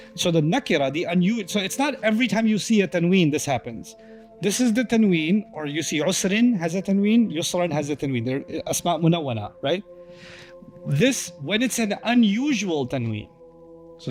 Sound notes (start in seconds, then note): 9.0 Arabic